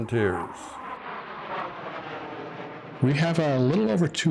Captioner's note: jet airplane flying over